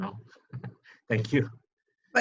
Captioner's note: laughs